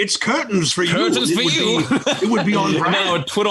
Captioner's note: laughs